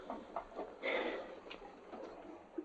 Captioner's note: gasps